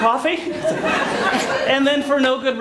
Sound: laughter

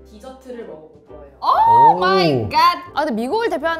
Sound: excited

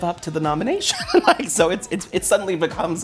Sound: laughing

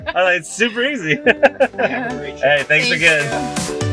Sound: laughs; upbeat techno music

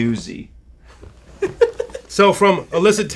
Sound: laughs

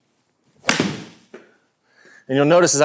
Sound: golf ball cracks

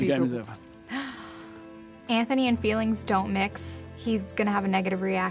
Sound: gasps

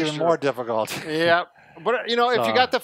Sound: chuckles

